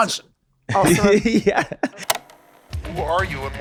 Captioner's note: Glenn laughs